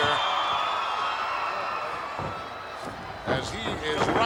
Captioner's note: audience applauding and cheering